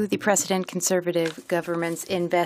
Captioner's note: speaking French